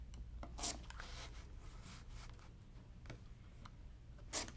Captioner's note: paper tears